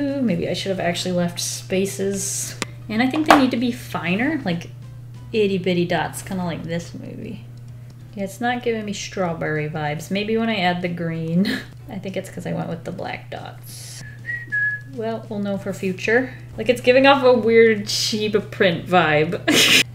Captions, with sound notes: Maybe I should have actually left spaces. And I think they need to be finer, like itty bitty dots, kind of like this maybe. It's not giving me strawberry vibes . Maybe when I add the green, I think it's 'cause I went with the black dots. [Whistles] Well, we'll know for future. Like it's giving off a weird Shiba print vibe. [Laughs]